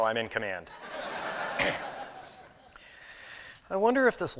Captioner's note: laughter